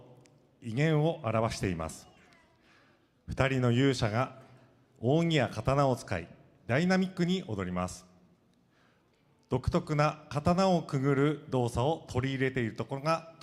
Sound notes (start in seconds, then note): 3.4 speaking foreign language